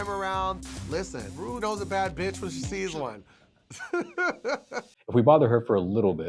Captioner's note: laughs